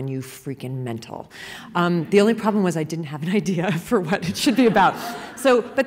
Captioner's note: laughter